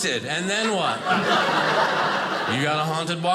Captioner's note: audience laughing